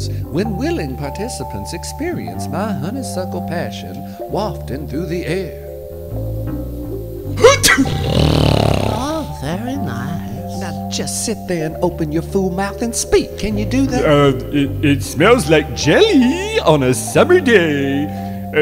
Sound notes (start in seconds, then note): 7.4 sneeze; 7.8 snore